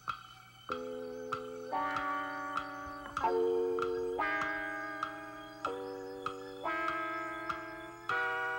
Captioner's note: clock ticking